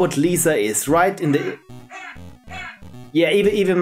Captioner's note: phone laughs